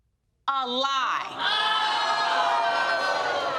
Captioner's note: crowd exclaiming